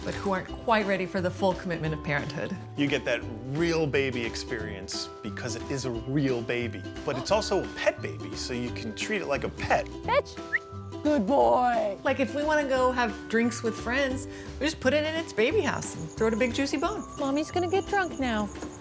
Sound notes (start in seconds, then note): 10.4 whistles